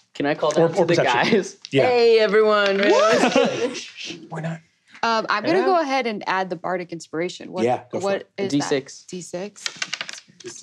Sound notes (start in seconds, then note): 2.8 cheers; 3.8 shushing; 9.7 dice clinking